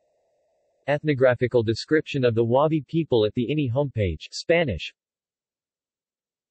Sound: Spanish

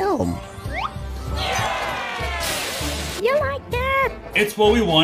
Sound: all cheering

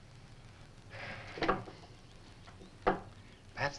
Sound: sighing

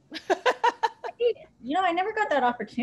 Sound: laughter

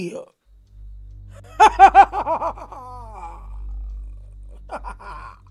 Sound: psychic laughing

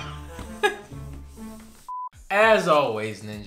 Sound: laugh; electronic beep

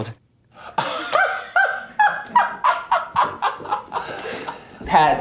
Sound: Laverne laughs

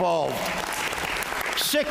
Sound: applause

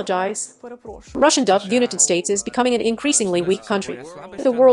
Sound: Russian dub

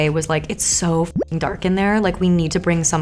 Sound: bloop

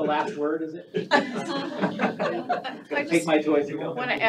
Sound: all laughing

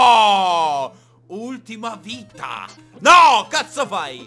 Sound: german accent

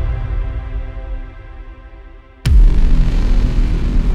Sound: none

